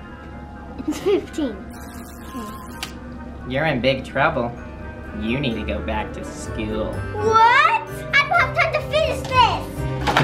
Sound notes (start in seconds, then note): 1.8 buzzer sounds